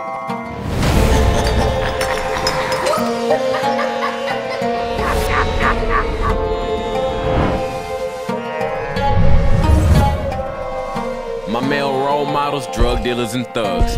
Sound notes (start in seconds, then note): 1.0 evil laugh